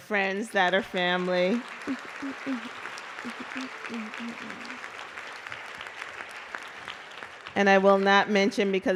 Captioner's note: applause